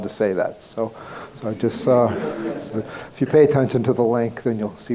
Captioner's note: crowd laughing